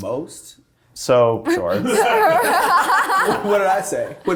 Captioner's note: cast laughing